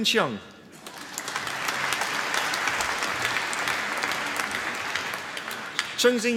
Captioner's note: applause